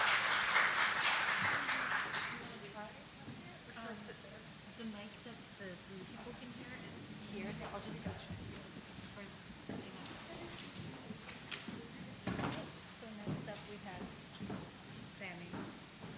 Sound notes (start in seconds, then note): 0.0 applause; 4.7 chatter